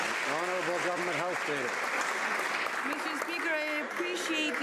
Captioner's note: some Applause